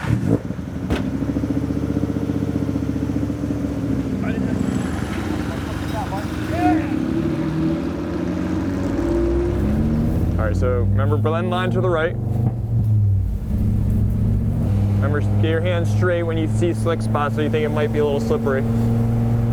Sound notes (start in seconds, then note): 0.1 engine revving; 4.2 people chattering; 7.9 engine revving